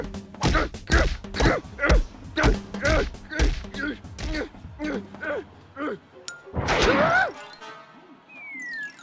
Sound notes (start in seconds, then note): 6.5 hollers